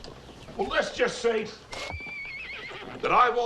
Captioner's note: horse whinnying